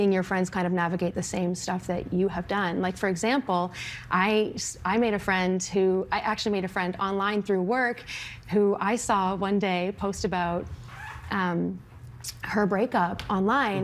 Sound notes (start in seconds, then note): none